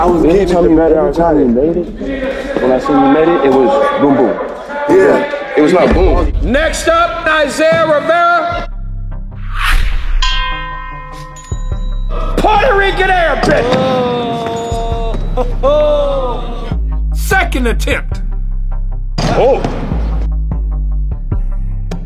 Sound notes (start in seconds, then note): 10.2 ding; 14.6 dunk sound; 19.4 dunk sound